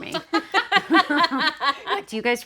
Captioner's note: group laughing